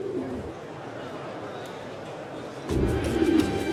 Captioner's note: Menigte mompelt